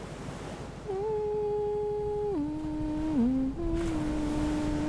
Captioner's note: gentle humming